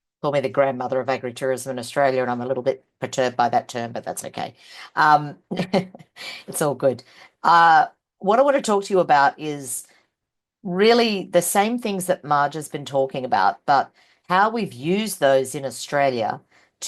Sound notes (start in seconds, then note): 5.4 person laughing